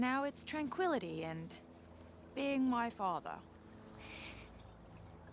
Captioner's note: chuckles